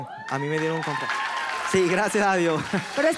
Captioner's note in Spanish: Ovación